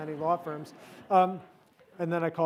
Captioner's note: audience laughs